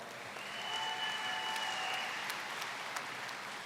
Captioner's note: applause